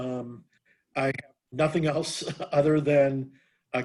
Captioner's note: laughter